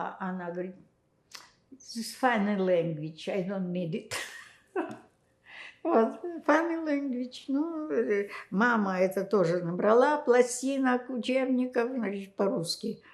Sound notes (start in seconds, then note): 4.7 laughing